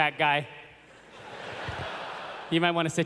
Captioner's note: laughter